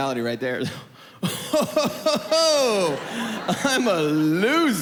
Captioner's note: chuckles